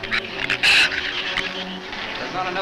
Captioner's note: shrews chatter